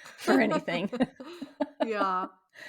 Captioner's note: laughing